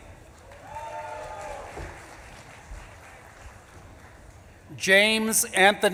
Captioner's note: audience claps and cheers